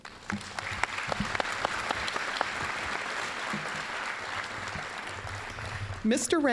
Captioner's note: applause